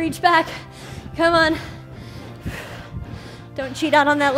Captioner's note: breathes heavily